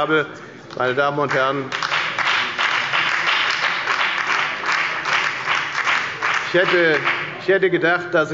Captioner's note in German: Beifall bei der FDP und der LINKEN